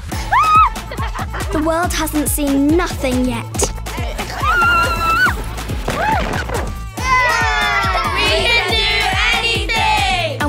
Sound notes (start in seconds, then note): 4.4 screaming